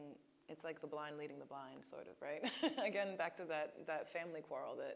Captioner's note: laughing